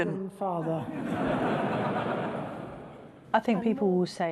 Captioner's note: audience laughing